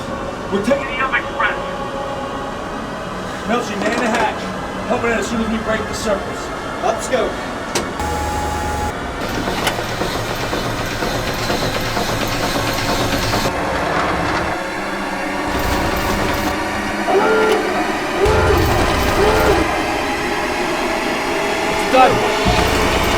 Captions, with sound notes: We're taking the up-express! Milchie, man the hatch. Open it as soon as we break the surface! Up scope! [horn blaring] [ship ascending] It's done.